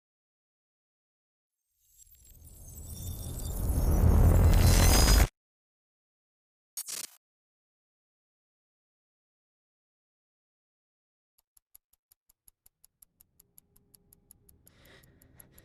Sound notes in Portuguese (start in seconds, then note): 11.5 tique-taque do relógio